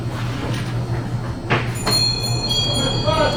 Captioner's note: bell ringing